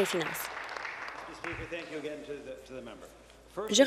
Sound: applause

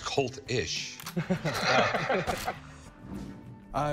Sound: laughter

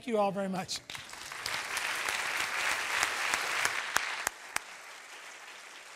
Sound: applause

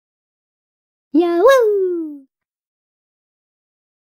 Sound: kid voice

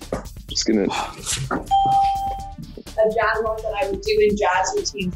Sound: ding

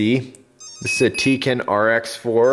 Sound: beeping

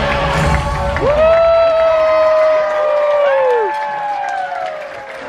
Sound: guests cheer and applaud

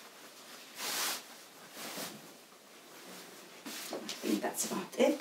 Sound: petticoat rustling

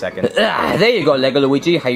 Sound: grunts

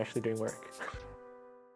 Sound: chuckles

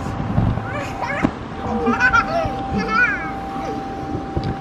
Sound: laughing

